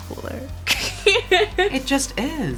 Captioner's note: laughs